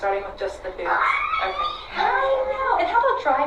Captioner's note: squeals